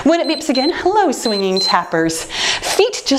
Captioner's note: timer beeps